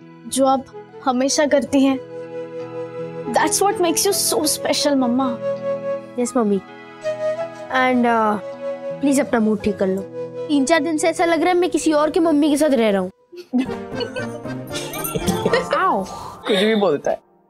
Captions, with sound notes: Which you always do. That's what makes you so special, Mom. Yes, Mom. And... please make your mood alright. From 3-4 days I'm feeling as if I'm living with someone's else's Mom! [laughter] - Ouch! - You say anything!